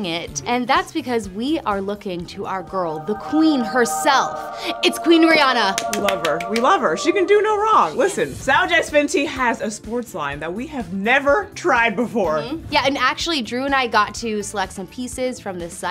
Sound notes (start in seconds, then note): 5.7 hands clapping